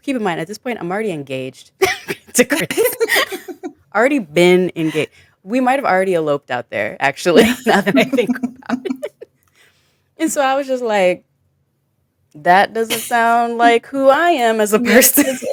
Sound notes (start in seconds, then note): 2.8 chuckle; 7.7 chuckles